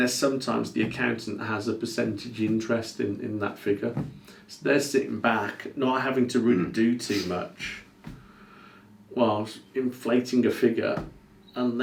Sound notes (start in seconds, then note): none